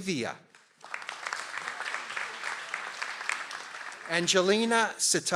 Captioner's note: audience applauds